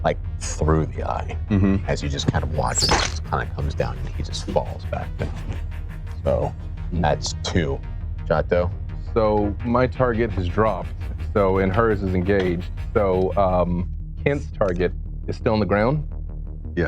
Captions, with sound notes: Like through the eye, as you just watch (arrow screams and hits) as he just comes down and he just falls back down. So, that's two, Chatho? - So, my target has dropped, and hers is engaged. So Kent's target, is still on the ground?